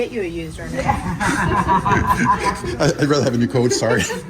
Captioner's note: everyone laughing